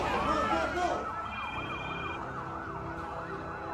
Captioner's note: phone ringing